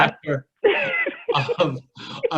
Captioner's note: laughs